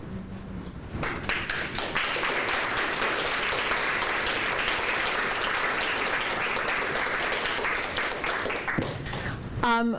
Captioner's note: applause